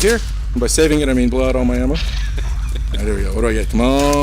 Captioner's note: laughs